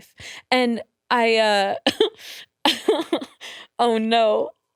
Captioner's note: laughs